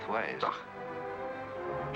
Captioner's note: scoffs